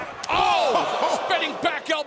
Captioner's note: Percy laughing